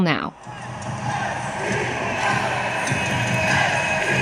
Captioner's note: crowd chanting